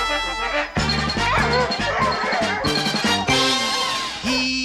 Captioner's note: fanfare playing; barking; singing